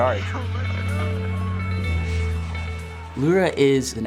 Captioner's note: light music; crowd chattering